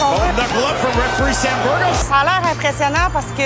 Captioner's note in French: commentaire en anglais